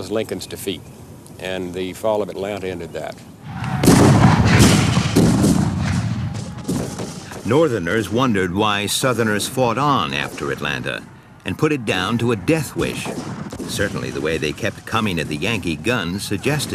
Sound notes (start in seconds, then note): 3.5 guns bang